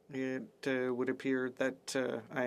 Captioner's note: speaking French